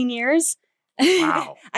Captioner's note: laughs